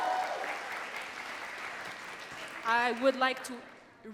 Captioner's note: audience cheering and clapping